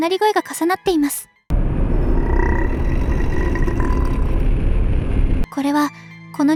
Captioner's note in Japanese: 唸り声